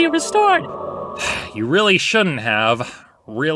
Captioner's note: sighs